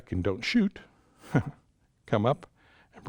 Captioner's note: chuckles